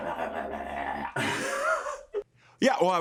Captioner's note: laughs